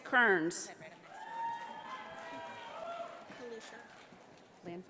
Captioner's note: audience applauding